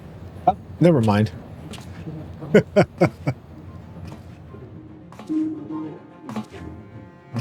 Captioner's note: laughs